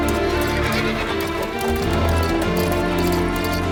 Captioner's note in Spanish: Relincho